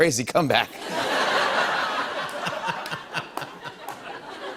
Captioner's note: laughter